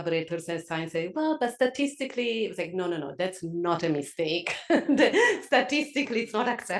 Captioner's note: laugh